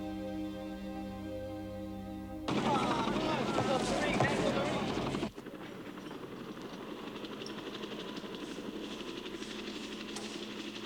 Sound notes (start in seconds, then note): 2.4 people chattering; 2.6 helicopter whirring